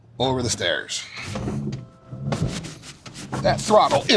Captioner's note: engine whirring